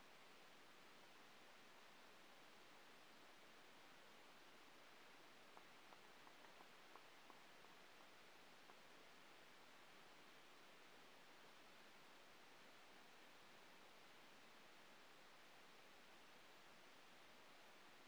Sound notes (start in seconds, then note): 5.6 applause